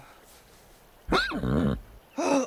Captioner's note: snickers